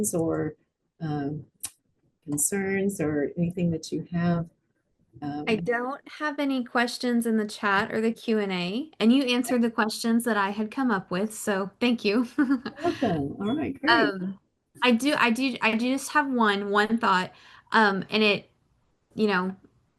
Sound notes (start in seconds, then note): 12.6 laughs